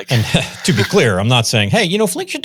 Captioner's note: chuckles